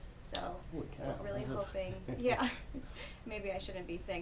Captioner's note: giggling